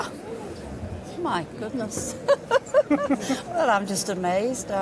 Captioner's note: laughs